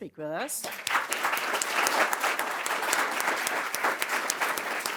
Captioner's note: applause